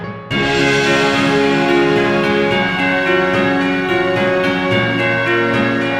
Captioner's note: bells ringing; upbeat music